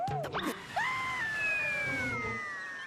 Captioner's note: Porky screaming